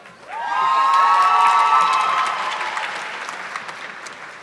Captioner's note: audience clapping